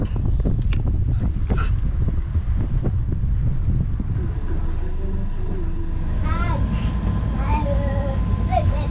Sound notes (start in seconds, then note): 1.2 wind blowing